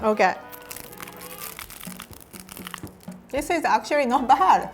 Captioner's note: chewing